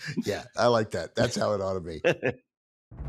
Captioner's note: laughs